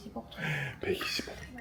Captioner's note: gasps